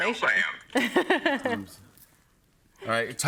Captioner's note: laughs